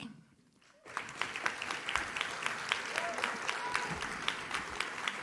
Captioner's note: audience claps